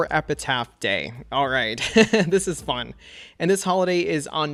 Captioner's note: laughs